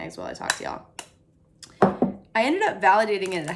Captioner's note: egg cracking